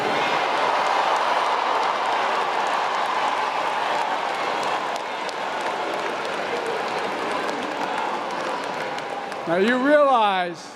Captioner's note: applause